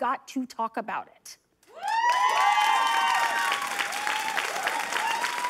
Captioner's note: applause